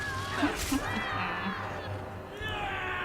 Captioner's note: chuckling